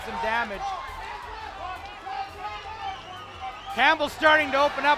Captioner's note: crowd yelling